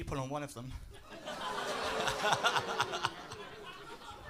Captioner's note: laughter